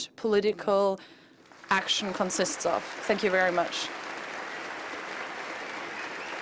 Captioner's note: applause